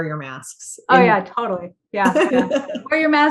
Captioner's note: laughter